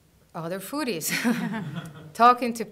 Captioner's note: soft laughter